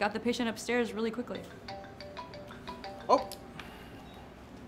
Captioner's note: alarm